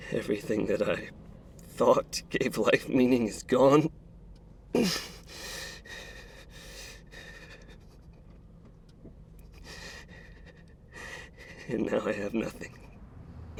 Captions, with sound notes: Everything that I thought gave life meaning is gone. (Mark grunts) And now I have nothing.